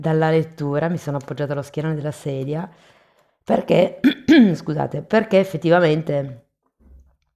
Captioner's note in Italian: schiarire la voce